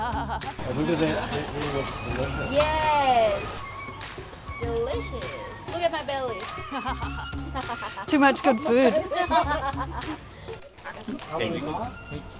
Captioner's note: laughing